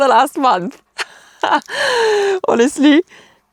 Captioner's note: laughs happily